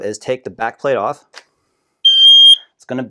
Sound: loud beeping

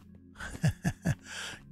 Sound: laughs

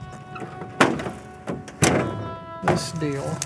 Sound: trunk thumping

